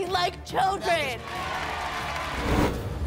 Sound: applause

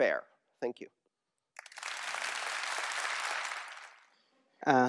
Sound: applause

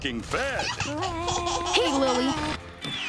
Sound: laughing

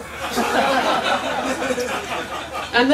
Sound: laughter

